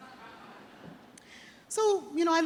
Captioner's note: audience chuckles